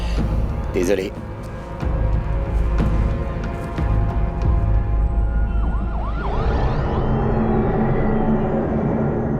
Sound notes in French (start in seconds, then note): 0.0 soupir; 4.5 Sirènes lointaines